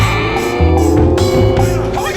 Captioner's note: roars